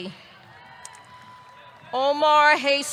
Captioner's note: audience cheering